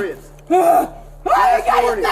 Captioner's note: grunts